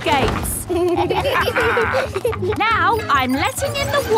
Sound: kids and captain dog laughing

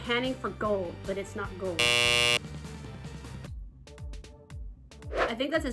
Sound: buzzer blares

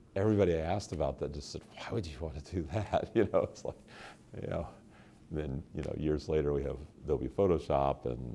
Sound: chuckle

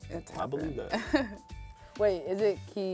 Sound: laughs

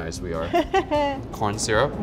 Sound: laughs

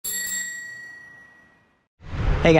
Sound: bell ringing

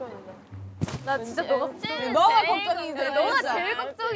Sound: rumble rumble

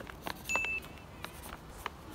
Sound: checkbox Ding

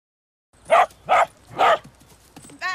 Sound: dog barking

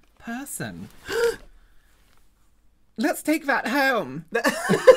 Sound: gasps and points at actual treasure; laughter

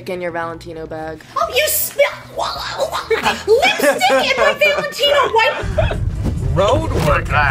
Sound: stammers

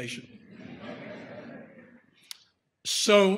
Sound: audience laughter

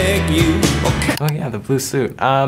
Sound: computer click

